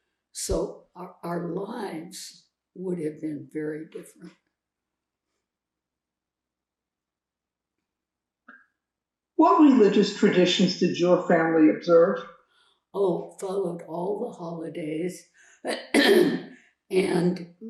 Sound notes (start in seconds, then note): 4.6 pauses 4 seconds; 15.8 coughing; 15.9 clears throat